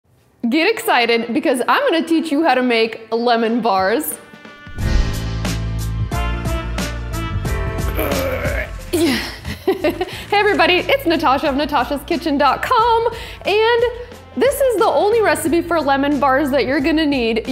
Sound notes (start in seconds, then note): 4.8 upbeat music; 7.9 groans